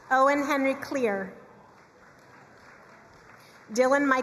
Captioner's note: crowd cheering and applauding